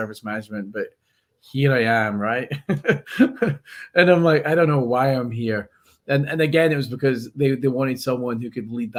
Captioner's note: laughs